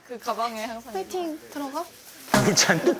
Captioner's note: chatter